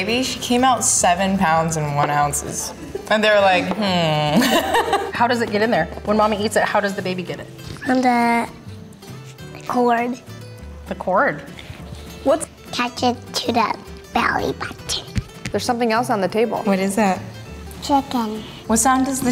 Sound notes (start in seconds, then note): 4.3 laughing